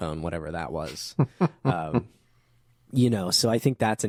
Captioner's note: laughing